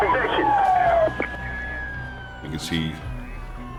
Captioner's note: sirens wailing